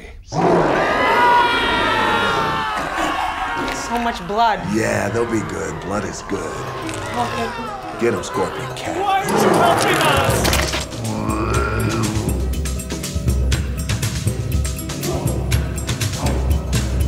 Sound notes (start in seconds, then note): 0.1 shouting; 0.2 lion roar; 8.5 man shouting; 10.9 roaring; 13.8 tribal music